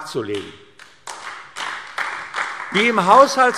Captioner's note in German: Beifall AfD